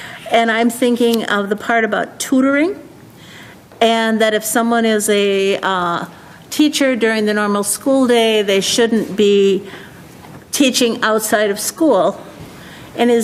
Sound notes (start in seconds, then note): none